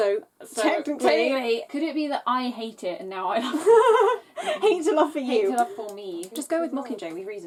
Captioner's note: laughs